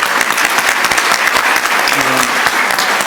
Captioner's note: audience applauding